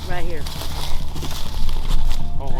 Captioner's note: rustling leaves